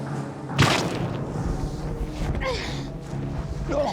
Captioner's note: grunting